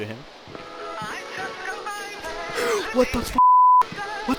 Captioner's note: gasps